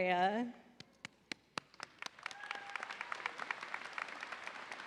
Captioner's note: audience applauding